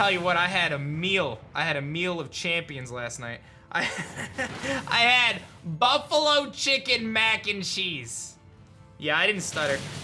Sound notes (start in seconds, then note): 3.4 laughs